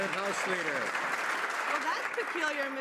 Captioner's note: some Applause